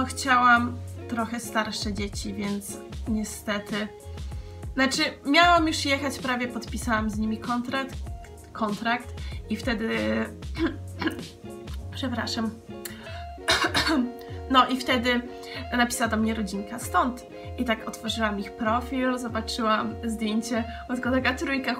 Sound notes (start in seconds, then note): 10.4 clear throats